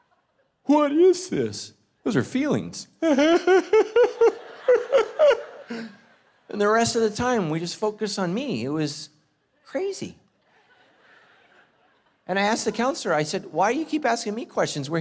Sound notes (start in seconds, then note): 3.0 crying